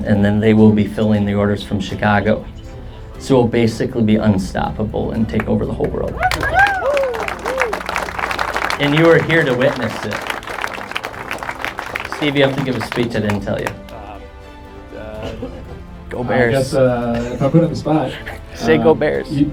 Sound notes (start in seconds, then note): 7.4 crowd cheering and clapping